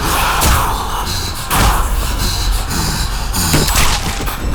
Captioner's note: hissing & snarling